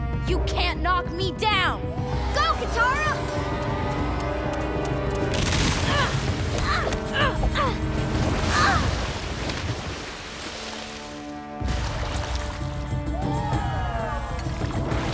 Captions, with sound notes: You can't knock me down! Go, Katara! [groaning] [wailing] [cheering]